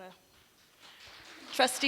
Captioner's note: applause